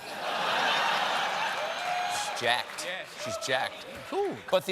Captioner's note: laughter